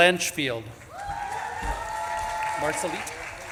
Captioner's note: audience claps and cheers